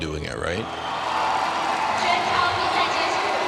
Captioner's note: crowd cheering